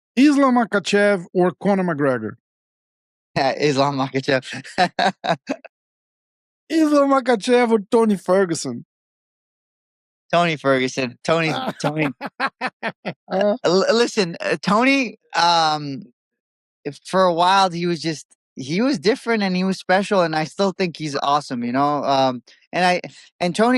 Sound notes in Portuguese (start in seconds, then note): 4.5 risos; 11.4 risos